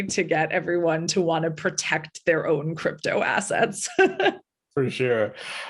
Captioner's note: chuckle